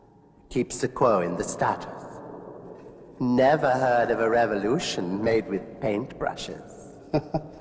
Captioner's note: laughs